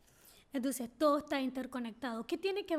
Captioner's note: speaking spanish